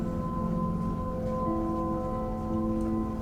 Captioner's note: none